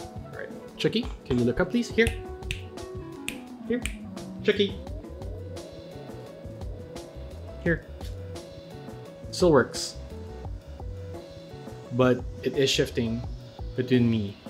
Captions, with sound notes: Chuckie can you look up please, here? (snaps fingers) here, Chuckie, here. Still works, but it is shifting between me and Chuckie.